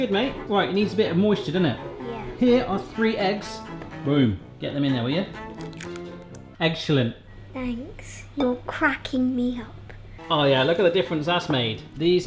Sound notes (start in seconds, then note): 5.5 crackling